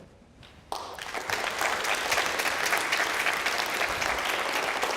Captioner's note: applause